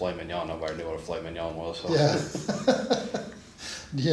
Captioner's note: laughs